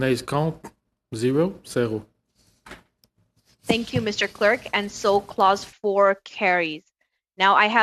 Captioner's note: speaking French